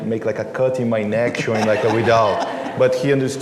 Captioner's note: laughter